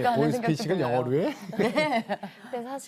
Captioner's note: laughter